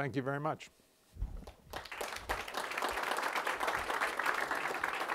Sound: applause

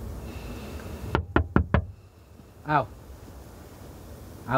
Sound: knock on window

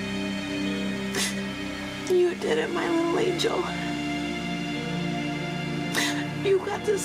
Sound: sniffs

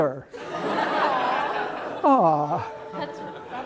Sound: laughter

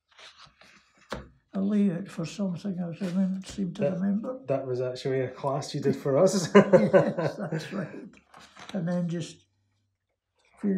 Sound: laughs

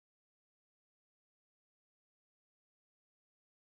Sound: none

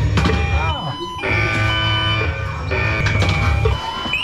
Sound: alarm

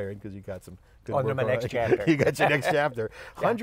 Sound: laughs

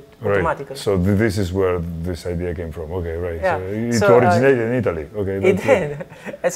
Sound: laughs

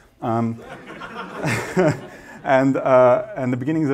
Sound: laughter

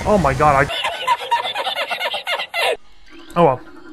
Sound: laughs at flyfish's misfortune

